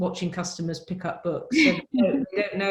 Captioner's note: laughs